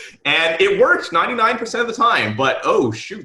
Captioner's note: laughing